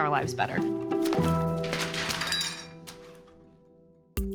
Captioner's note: papers rustling, teacup clatters